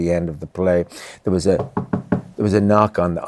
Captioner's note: knocks on table